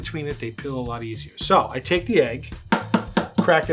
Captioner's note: egg banging